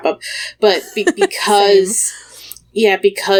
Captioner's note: laughs